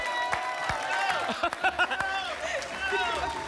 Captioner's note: applause and cheering; laughs